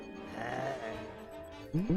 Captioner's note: angry Growl